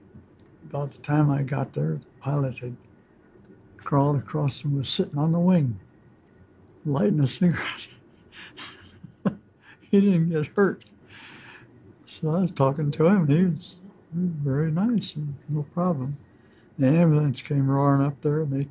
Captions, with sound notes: About the time I got there, the pilot had crawled across and was sittin’ on the wing, lightin’ a cigarette. (laughs) He didn’t get hurt. So I was talking to him and he was very nice, no problem. And the ambulance came roarin’ up there and they